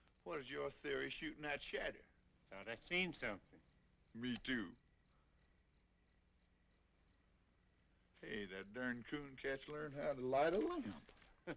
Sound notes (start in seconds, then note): 5.4 insects chirping